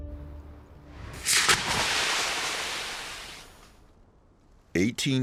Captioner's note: brand sizzling